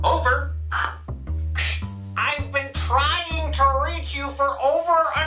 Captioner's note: over walkie talkie